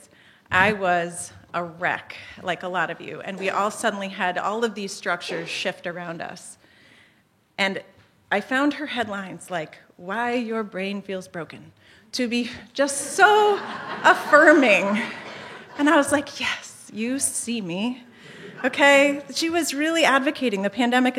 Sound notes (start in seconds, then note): 13.3 laughter